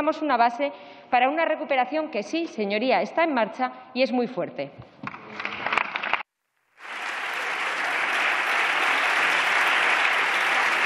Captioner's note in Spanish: Aplausos